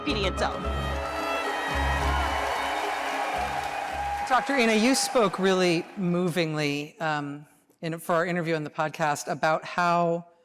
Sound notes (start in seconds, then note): 3.4 applause